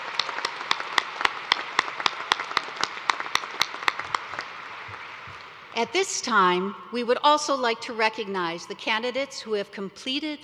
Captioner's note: cheers and applause